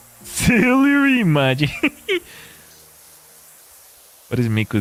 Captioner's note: laughter